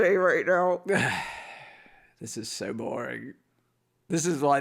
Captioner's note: sighs